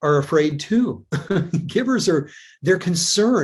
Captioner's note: chuckles